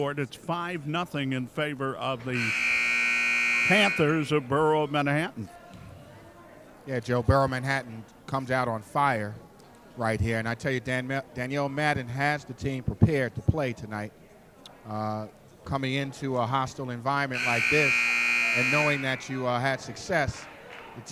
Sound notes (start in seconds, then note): 2.3 buzzer sounding; 17.3 buzzer sounding